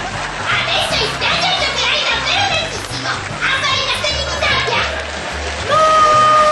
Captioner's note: laughter